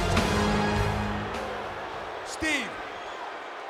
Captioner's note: audience booing